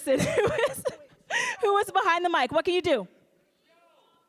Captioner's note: laughing